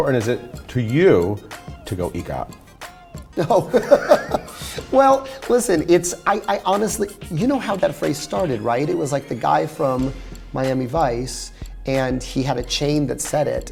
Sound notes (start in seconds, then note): 3.3 laughs